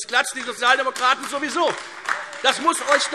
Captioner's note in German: Beifall Freie Demokraten und AfD